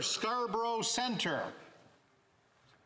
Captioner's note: speaking French